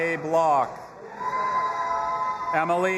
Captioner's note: audience applauding and cheering